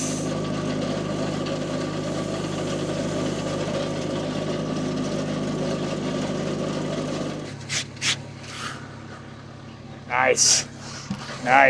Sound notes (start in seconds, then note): 0.2 engine humming; 7.5 glove scratching; 8.4 breath whooshing